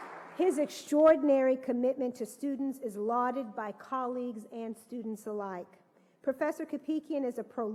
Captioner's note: applause